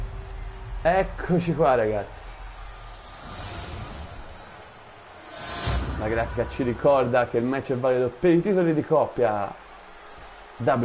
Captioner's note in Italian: Applauso